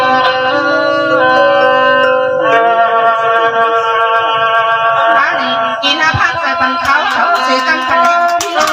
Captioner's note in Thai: ปรบมือ